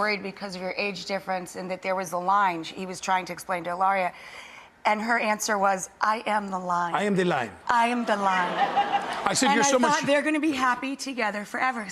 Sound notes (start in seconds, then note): 8.0 audience laughs